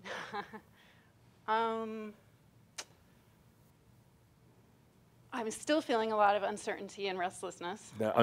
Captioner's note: chuckles